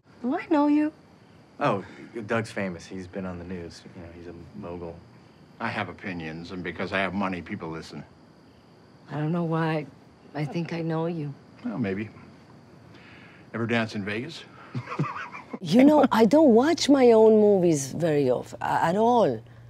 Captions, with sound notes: Do I know you? - Oh, Dad's famous, he's been on the news. You know, he's a mogul. - I have opinions, and because I have money, people listen. - I don't know why, I think I know you. - Maybe. Ever dance in Vegas? (laughs) - You know, I don't watch my own movies very often, at all.